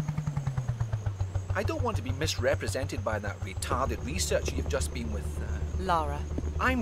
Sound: scottish accent

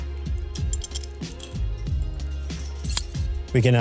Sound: clinking

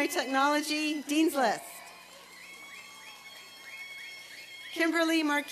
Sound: applause and cheering

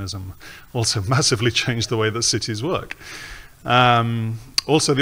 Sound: chuckles

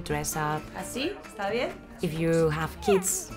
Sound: speaking in Spanish

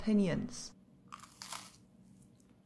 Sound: crunch

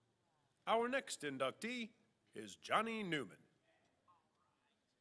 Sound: voiceover

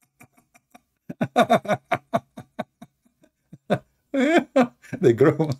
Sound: Ketawa

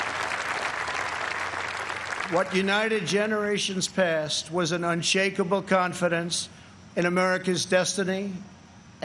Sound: applause

